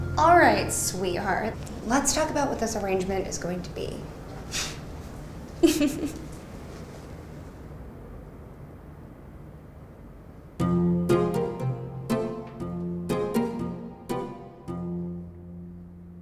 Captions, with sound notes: - "All right, sweetheart, let's talk about "what this arrangement is going to be." (chuckling) (playful music)